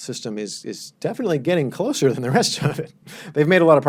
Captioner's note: laughs